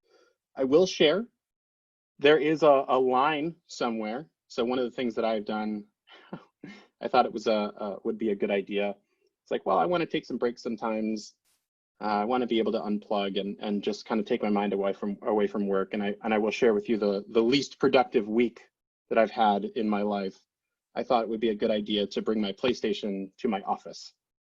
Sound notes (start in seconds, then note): 6.5 laughs